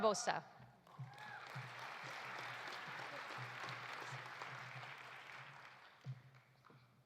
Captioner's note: audience applauding; audience cheering